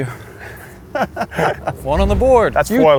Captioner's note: laughing